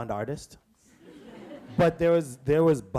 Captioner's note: audience laughs